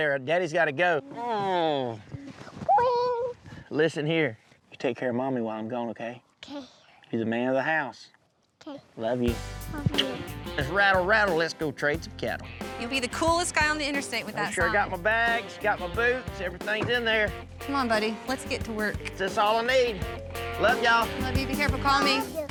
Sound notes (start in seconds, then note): 18.3 truck door closes